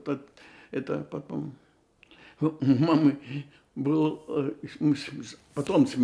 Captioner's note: laughing